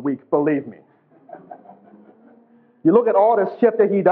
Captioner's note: class laughs